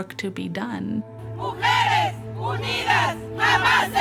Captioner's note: chanting in Spanish